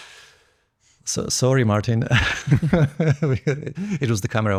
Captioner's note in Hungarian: nevetés